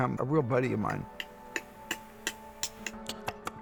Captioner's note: clicking